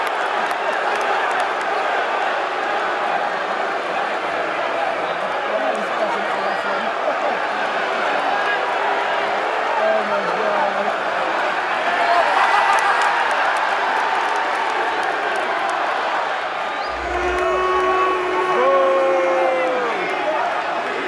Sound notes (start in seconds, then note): 0.1 indistinct crowd chatter; 12.7 crowd cheers; 16.8 crowd boos